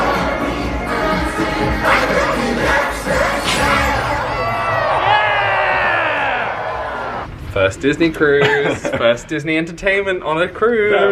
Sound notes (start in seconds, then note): 3.2 guests cheer